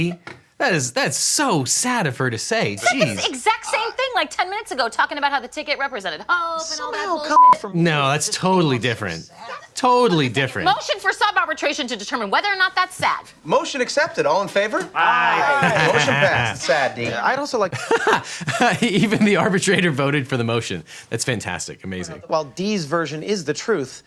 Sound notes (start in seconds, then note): 7.3 beep; 15.2 lawyer laughs